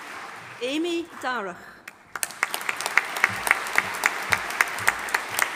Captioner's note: audience applauding